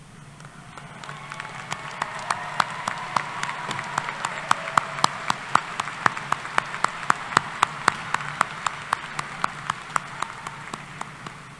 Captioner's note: applause